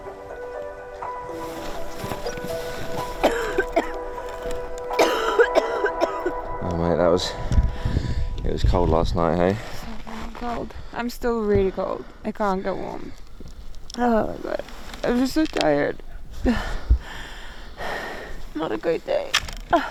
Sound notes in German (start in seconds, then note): 4.8 hustet